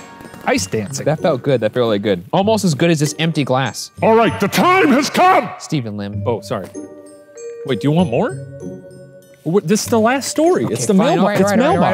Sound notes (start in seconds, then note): 4.3 deep demonic voice; 6.8 normal voice